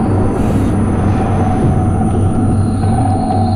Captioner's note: Morales breathing heavy